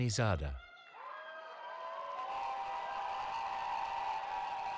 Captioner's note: cheering